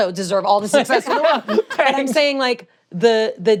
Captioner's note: laughter